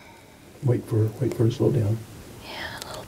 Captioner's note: whispering